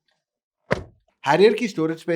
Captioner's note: door Thud